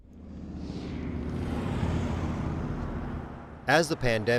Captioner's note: car engine roars